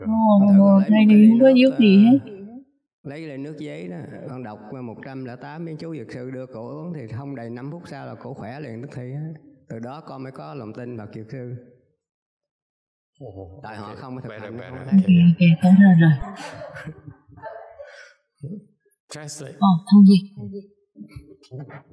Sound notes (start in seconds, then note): 16.3 laughter